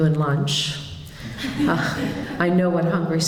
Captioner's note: polite laughter